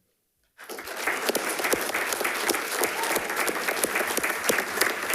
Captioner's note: attendees clapping